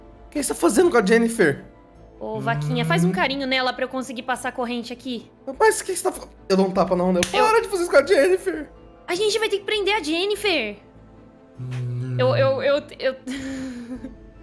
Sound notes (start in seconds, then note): 7.2 smack; 12.4 stuttering